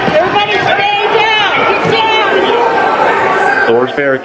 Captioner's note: shouting